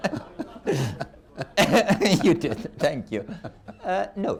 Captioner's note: laughter